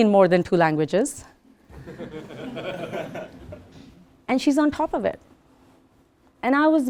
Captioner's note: laugh